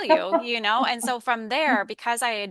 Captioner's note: chuckles